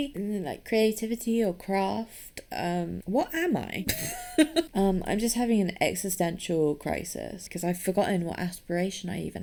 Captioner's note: laughs